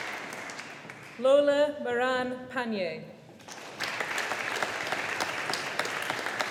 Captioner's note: audience applauding